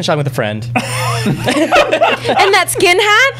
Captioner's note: laughter